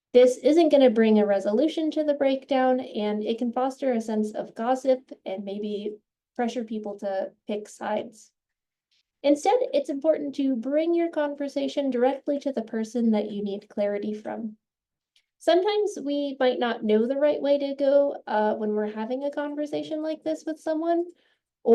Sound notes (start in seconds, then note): none